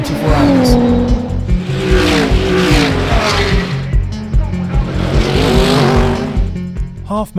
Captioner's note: enigmatic music; engine revving